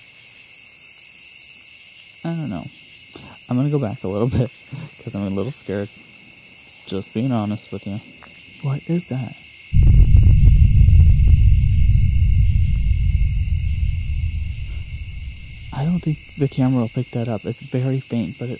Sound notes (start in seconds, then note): 9.7 rumbling boom